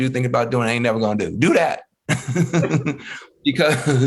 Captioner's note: laughing